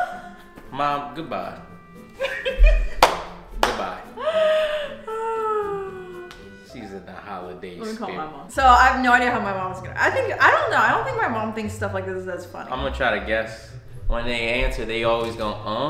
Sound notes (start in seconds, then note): 2.2 laughs